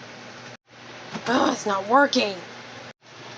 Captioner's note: groans